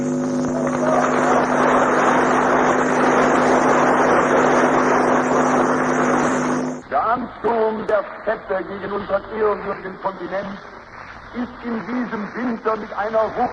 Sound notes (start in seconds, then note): 0.7 applause